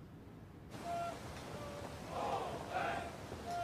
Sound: trainees shouting cadence calls

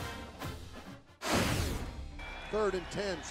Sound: marching band music; whooshing

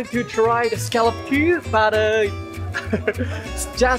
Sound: chuckle

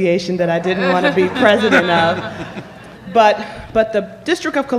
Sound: laughter

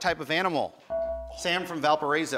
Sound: buzzer

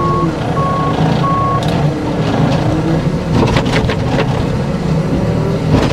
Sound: engine revving

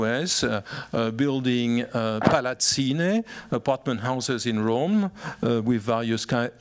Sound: italian

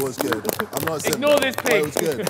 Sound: clapping

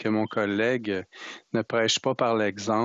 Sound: speaking French

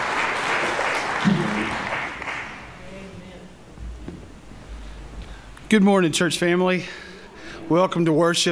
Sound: applause

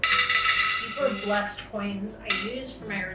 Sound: coins clinks

